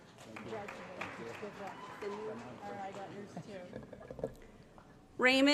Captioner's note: applause